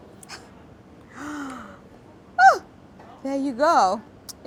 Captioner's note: gasps